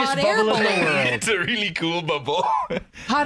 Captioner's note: laughing